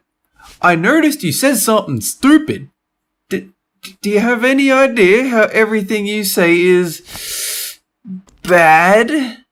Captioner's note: breath